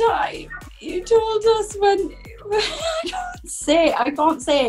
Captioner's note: laughs